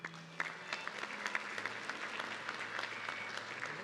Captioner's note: audience clapping